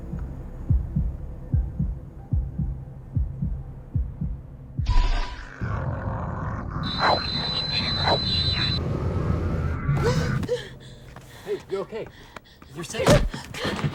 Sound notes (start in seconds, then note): 0.6 heart thumping; 10.0 woman gasping and panting